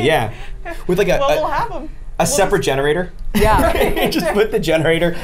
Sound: laughs

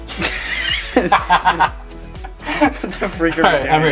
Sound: laughing

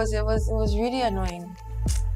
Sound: kisses teeth

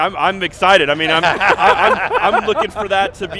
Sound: laughter

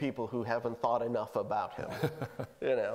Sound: laughing

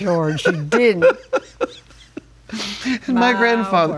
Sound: laughs

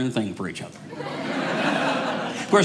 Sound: audience laughing

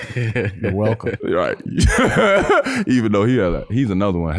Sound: laughs

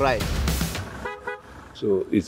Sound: horn tooting

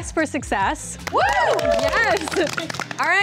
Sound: cheering & applause

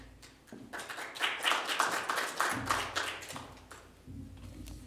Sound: applause

